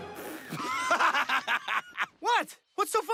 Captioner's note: laughing